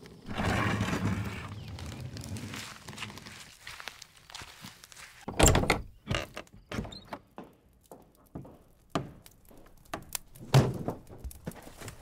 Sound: walking to the house interior, the sound of fire crackling in the hearth

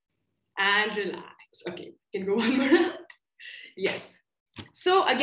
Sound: laughter

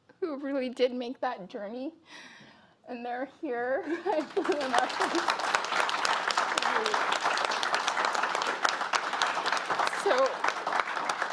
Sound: applause

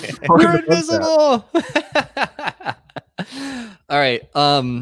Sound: laughs; laughs

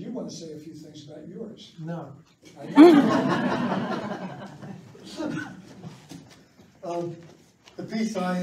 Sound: laughs

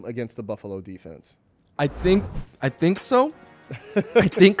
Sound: laughs

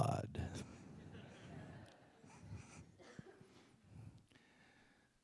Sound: laughter

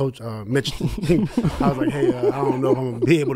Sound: laughs

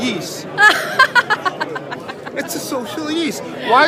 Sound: she laughs

